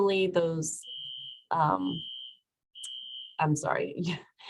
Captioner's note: fire alarm sounding faintly